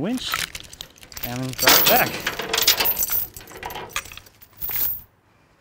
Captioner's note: chains rattling; chains thumping